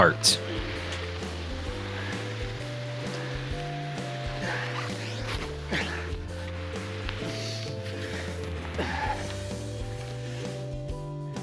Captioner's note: breathes heavily